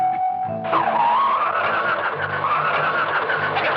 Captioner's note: turbines whirring